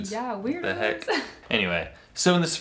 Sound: laughs

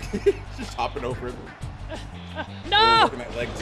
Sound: laugh

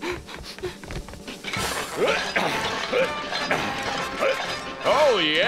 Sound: grunting

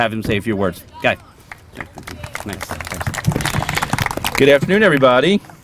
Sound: applause

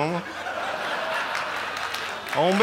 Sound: audience laughing

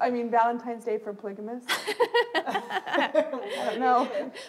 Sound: laughter

